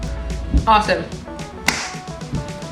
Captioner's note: claps hands